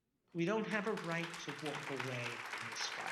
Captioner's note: audience clapping